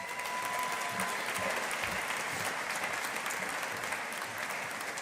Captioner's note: audience applauding